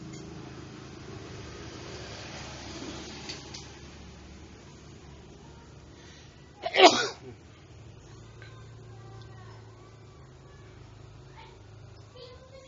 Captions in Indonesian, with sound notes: Ternyata kapasitornya telah jebol CB861 Uhukkk (Batuk)